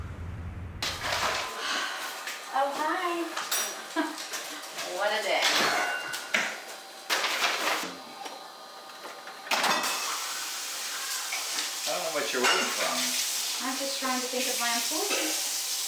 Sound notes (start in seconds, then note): 0.2 door opens; 9.5 dishes clanging